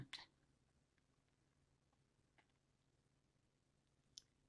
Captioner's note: pauses 6 seconds